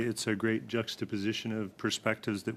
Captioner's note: speaking French